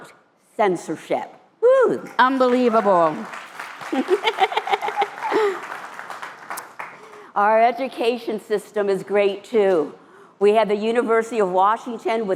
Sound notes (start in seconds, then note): 3.8 laughter